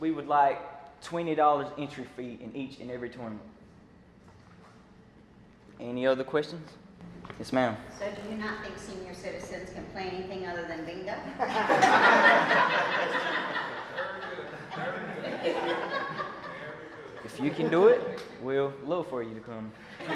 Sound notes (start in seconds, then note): 12.9 laughter